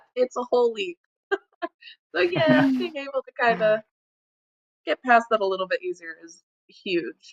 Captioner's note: laughs